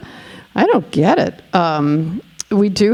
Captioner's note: none